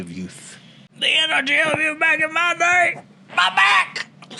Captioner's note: old person voice